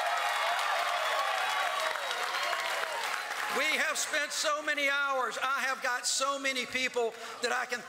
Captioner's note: cheers and applause